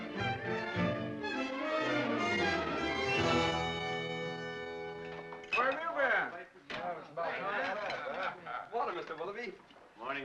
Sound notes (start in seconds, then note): 0.0 dramatic music; 5.4 door closes